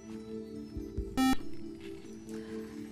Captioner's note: buzzer